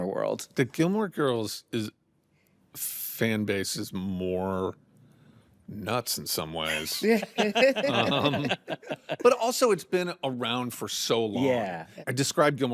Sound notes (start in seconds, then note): 6.9 all laugh